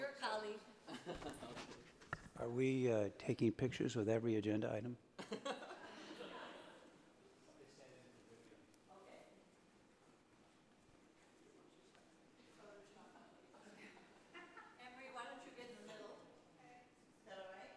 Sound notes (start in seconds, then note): 0.8 laughter; 5.2 laughter; 8.0 people chattering